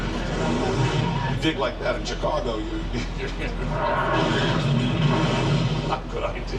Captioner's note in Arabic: تضحك